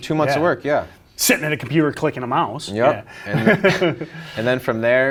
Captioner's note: giggles